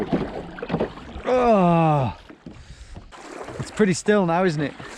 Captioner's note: groans